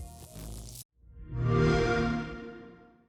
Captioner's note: xbox sound